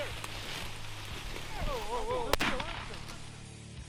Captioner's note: man shouting indistinctly; gun firing